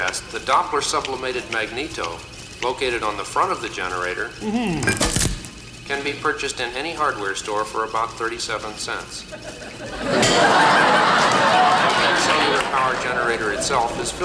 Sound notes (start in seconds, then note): 4.4 Muppet exclaims; 9.3 audience laughs